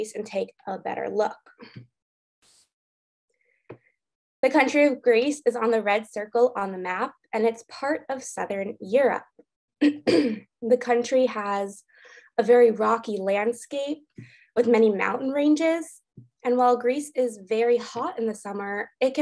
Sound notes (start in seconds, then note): 9.8 clears throat